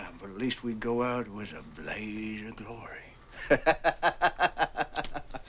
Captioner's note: laughs